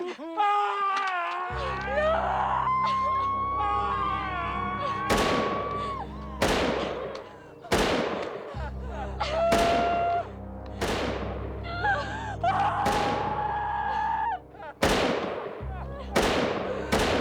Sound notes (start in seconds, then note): 0.3 screaming; 4.3 gun firing; 13.9 all crying